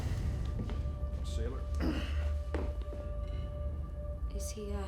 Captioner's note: grunts